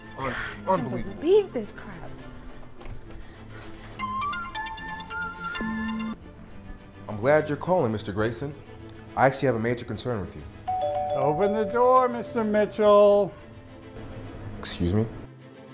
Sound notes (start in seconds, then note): 4.6 phone ringing; 10.6 door bell ringing